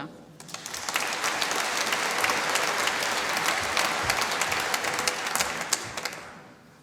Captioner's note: applause